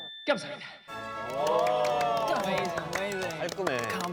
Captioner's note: amazed, applause